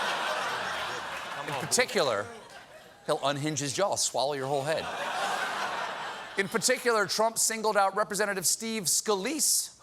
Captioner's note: laughter